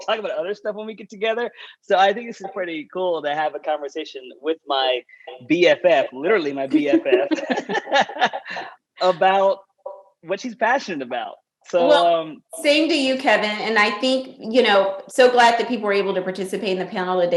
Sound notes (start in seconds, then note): 6.5 laughter